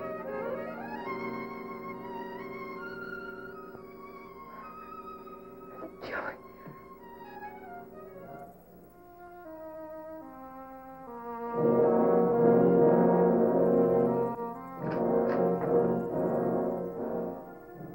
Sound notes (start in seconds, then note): 5.9 whispering; 7.5 dramatic music